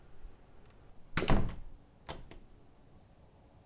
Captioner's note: door suppenly closed and locks